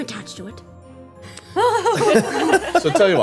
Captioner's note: laughing